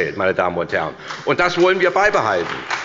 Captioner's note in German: Beifall bei der SPD und der LINKEN